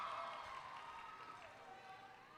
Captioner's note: applause